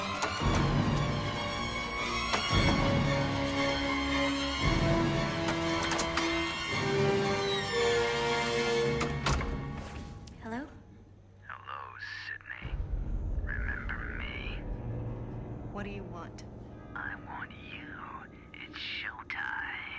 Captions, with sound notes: [creaking] [door thudding] Hello? Hello, Sidney. Remember me? What do you want? I want you. It's showtime.